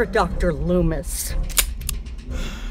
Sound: click

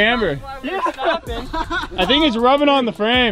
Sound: laughing

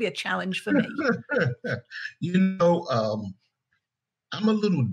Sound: laughing

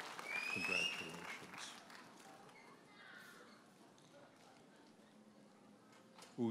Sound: audience cheers and applauds; audience members whistles

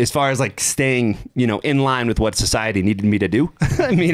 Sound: chuckles

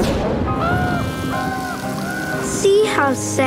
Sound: raining

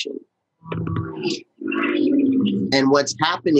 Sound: distorted noises begin

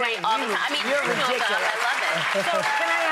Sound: audience applauds

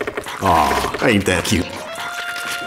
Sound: eating sounds in the background

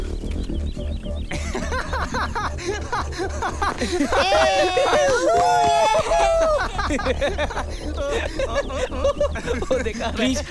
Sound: laughs

